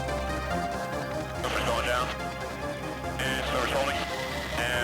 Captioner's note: radio chatter